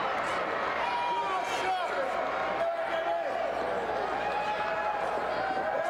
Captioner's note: audience chattering